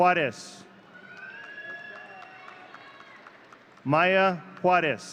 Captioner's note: audience cheering